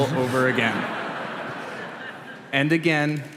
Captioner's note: laughter